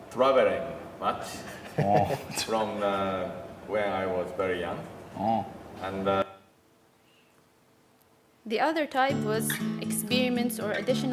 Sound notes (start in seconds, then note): 1.4 laugh